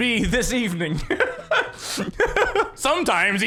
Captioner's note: wheezes while also oozing pleasure from his vocal cords